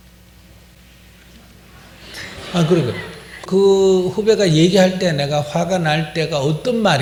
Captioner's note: questioner/Audience Laughter